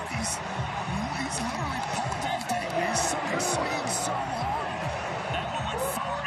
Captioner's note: laughter